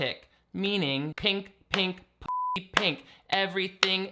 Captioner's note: beeping